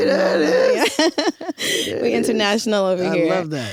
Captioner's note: laughs